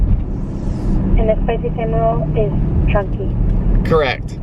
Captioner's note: woman on phone